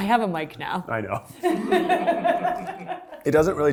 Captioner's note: laughs